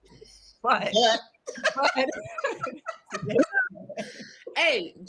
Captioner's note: participants laugh